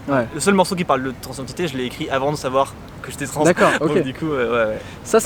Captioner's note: both laugh